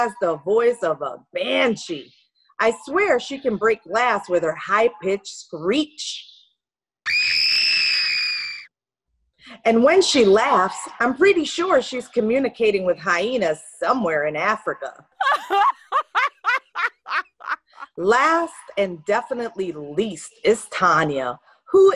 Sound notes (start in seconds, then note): 7.0 screaming; 15.2 laughing